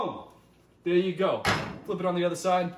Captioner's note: metal clanking